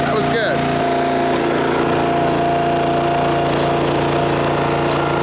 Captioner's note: motor roaring